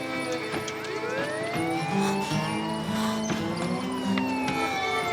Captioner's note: sirens wailing